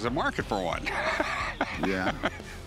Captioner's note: laughter